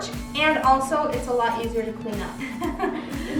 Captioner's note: laughs